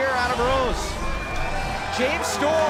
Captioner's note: bell ringing